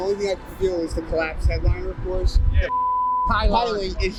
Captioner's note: beep